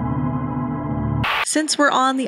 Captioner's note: TV channel change static